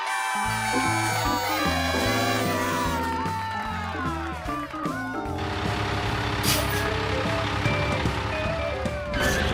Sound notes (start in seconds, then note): 0.0 cheers and applause